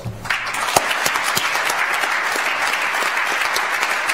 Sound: audience applauds

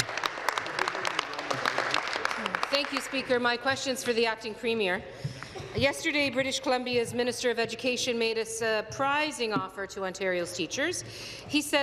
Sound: applause

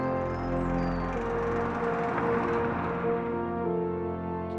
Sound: passing Car

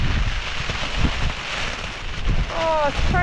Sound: wind & rain

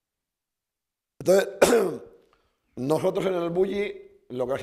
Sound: speaking spanish

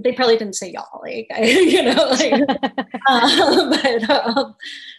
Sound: laughs

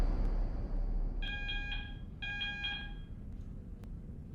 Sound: hospital alarm blares

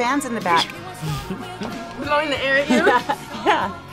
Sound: laughs

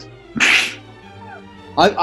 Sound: sniggers

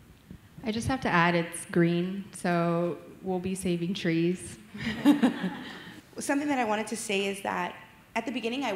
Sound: laughter

